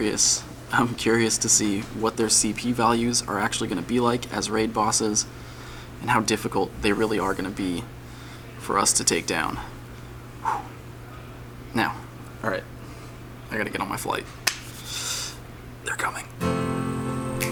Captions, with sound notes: I'm curious to see what their CP values are actually going to be like as raid bosses And how difficult they really are going to be for us to take down (exhales sharply) Now all right. I got to get on my flight They're coming